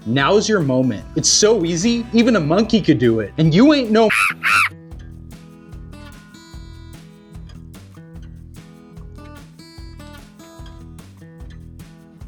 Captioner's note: monkey sounds